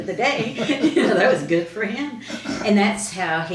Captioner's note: laughs